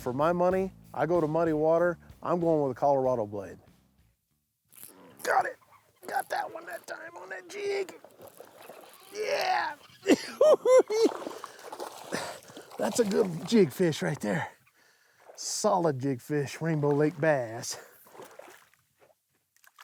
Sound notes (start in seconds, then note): 4.3 strains; 10.0 cackles